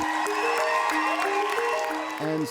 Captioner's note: crowd cheers